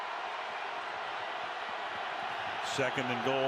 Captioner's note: cheers, applause